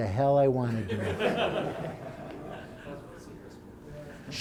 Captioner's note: laughter